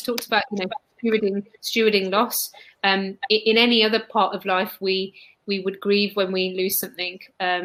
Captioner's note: erm